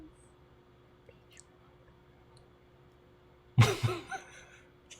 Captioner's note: whispers; laughs